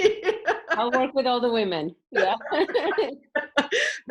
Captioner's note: laughs; laughs